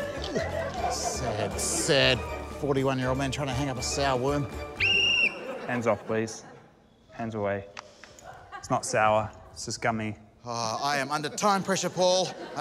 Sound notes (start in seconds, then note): 0.4 grunts; 4.7 blows whistle